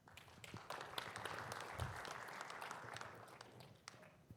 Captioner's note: audience applauds